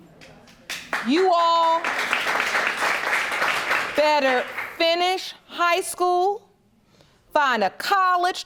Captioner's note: audience applauding